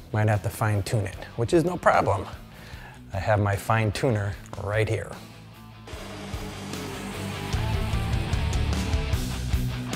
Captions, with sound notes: Might have to fine tune it, which is no problem. I have my fine tuner right here. (machine whirring)